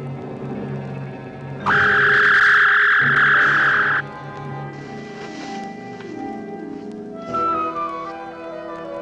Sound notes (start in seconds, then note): 0.7 dramatic music; 1.7 zapping